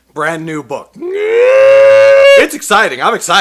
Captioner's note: screams